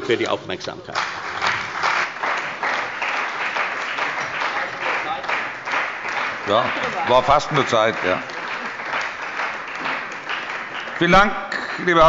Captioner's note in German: Beifall bei der CDU und dem BÜNDNIS 90/DIE GRÜNEN